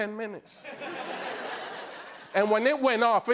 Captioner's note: laughter